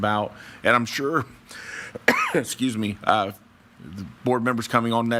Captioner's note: coughs